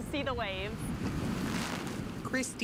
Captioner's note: nat waves